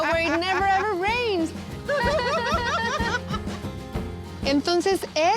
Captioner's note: laughter